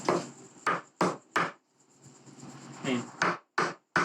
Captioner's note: hammering